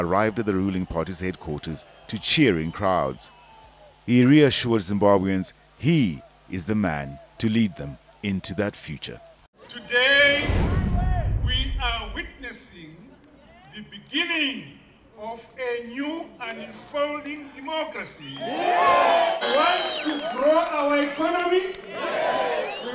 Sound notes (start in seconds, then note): 18.2 cheers and applause